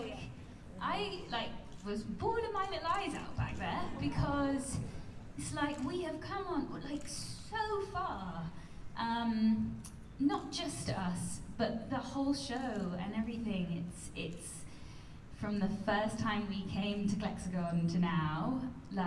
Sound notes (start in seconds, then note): none